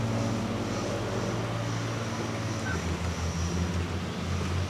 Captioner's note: aircraft engine